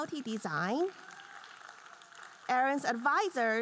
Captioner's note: audience cheering and applauding